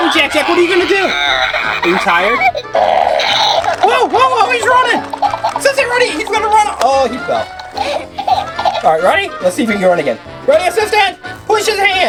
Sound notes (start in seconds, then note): 0.0 toy baby laughing; 5.8 excited yelling; 7.8 laughs